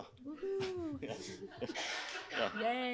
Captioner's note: laughter